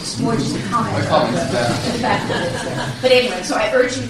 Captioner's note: laughter